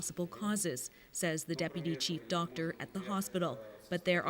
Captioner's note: speaking Foreign Language